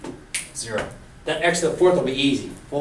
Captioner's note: voiceover